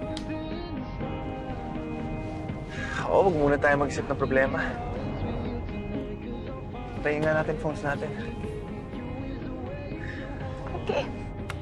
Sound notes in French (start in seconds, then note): 1.9 sighs